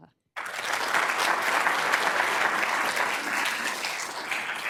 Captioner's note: crowd applauding